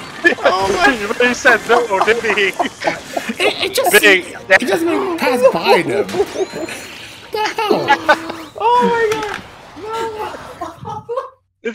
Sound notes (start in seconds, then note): 0.8 laughing; 5.8 continue laughing; 8.2 laughing; 10.3 continue laughing